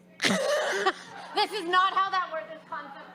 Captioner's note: laughs